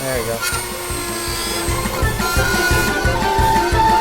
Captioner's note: Dremmel buzzing; upbeat music